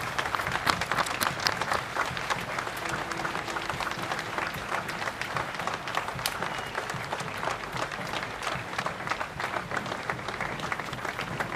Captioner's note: applause